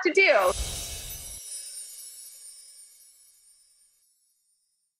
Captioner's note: enchanting sound